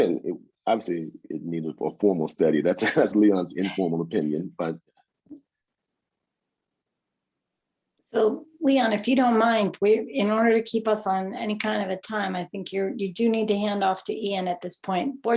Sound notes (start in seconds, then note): 2.1 chuckles